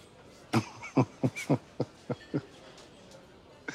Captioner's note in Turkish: Orhan gülüyor